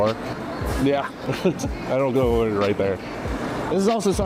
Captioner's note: laughs